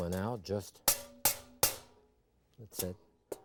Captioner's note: grater banging